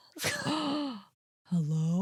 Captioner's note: gasps